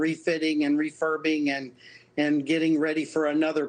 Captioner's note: speaking russian